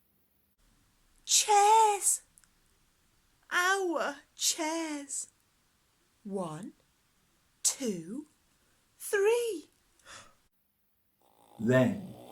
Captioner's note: snoring